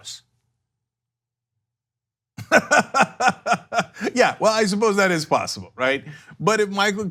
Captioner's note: laughter